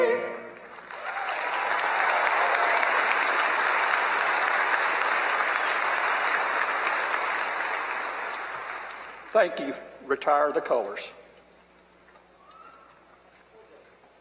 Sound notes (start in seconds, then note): 0.4 applause